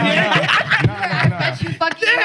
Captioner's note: laughing